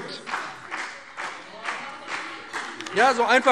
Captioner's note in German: Beifall BÜNDNIS 90/DIE GRÜNEN - Zurufe SPD